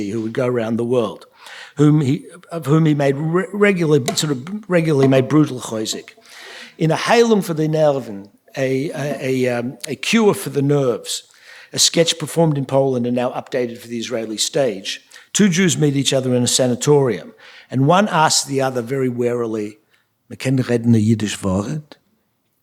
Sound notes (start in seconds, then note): 5.3 yiddish; 6.8 speaking yiddish; 20.8 speaking yiddish